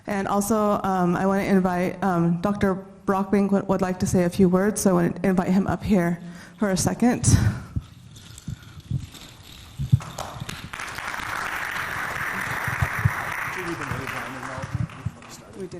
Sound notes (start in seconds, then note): 7.0 beads clinking; 10.0 audience clapping